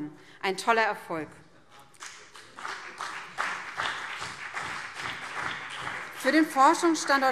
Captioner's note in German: Beifall BÜNDNIS 90/DIE GRÜNEN und CDU